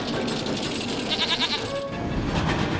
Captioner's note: bleats